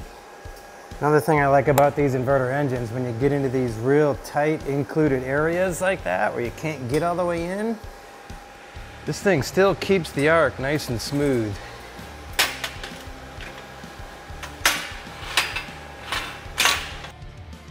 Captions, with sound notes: Another thing I like about these inverter engines, when they get into these real tight included areas like that where you can't get all the way in, this thing still keeps the arc nice and smooth. (metal clinking)